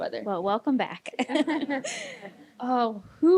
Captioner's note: laughter